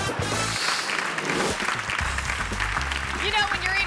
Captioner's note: audience laughing; audience clapping; air whooshes